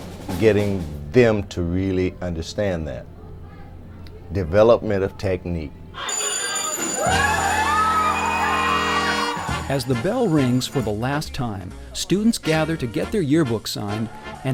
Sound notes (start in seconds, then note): 6.0 school bell rings; 7.6 enthusiastic cheering